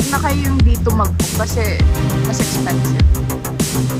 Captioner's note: none